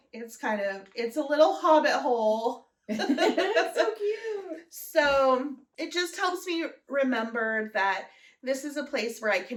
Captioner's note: laughter